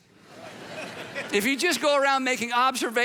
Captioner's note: audience laughing